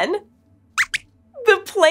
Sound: squeaks squeaks

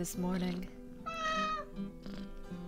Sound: cat meows

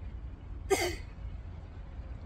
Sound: grunts

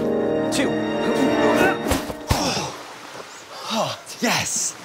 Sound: groaning

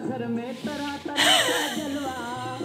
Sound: laughing

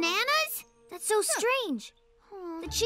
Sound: exclaims

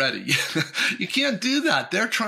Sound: chuckles

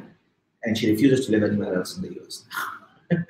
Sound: laughing

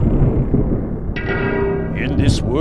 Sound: ominous ding; wooshing sound

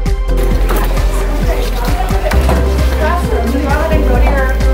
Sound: students chatter

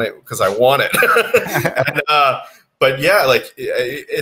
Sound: laughs

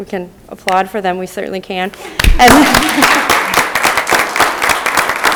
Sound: audience applause

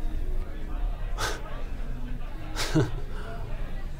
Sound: giggling

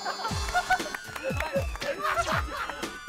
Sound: laughing hard

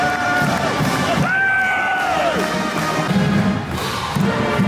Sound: applause

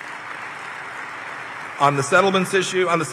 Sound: applause

